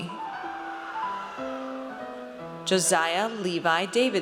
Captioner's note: audience cheers